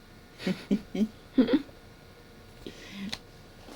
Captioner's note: both laughing